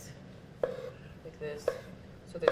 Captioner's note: cutting mushroom